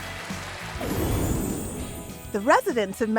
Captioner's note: cheering; applause